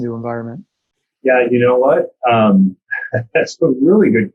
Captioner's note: laughing